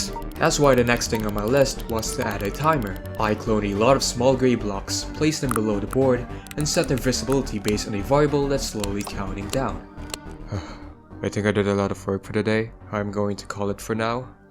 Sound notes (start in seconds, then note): 10.4 sigh